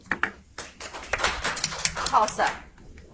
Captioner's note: audience applauds